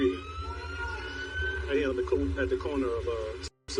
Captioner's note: sirens wailing